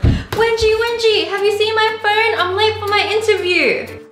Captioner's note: gasp